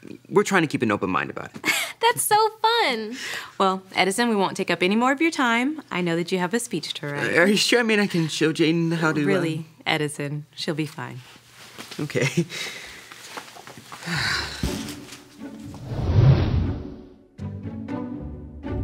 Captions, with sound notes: we're trying to keep an open mind about it. - That's so fun! - Well Edison, we won't take up any more of your time I know that you have a speech to write. - Are you sure? I mean I can show Jaden how to - Really, Edison, she'll be fine. - Okay. (sighs heavily) (light music)